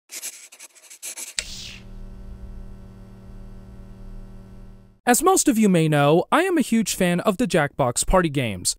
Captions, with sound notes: (pencil drawing sounds) (electric sounds) As most of you may know, I am a huge fan of the Jackbox party games,